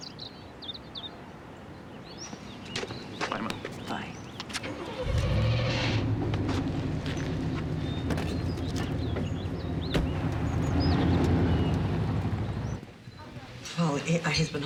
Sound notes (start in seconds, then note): 4.1 engine turns over